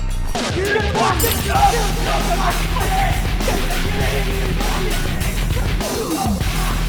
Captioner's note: intense heavy metal music; gangsters shouting